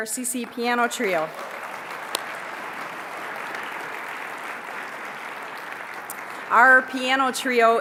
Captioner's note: applause